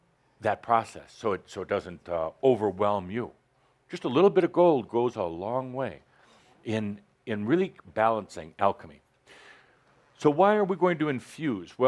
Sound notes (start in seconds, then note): none